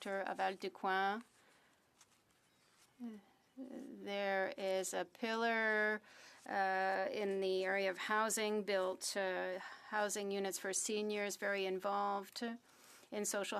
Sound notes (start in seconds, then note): 4.4 speaking French